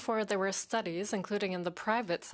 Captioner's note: speaking in French